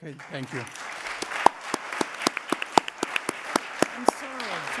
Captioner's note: applause